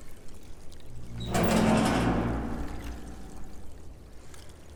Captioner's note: door creaking